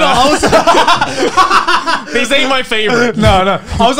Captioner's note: both laugh